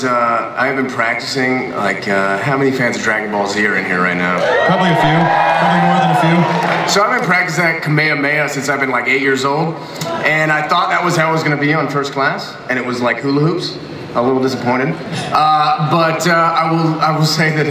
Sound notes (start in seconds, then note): 4.3 audience cheers; 17.0 laughs